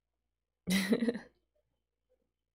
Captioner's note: laughs